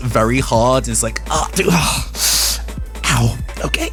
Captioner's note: Pained Bijou Noises